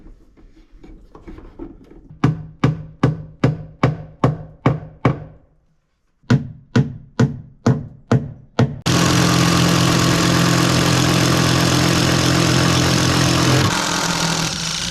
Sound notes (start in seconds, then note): 4.2 hammering